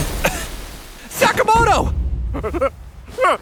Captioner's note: coughing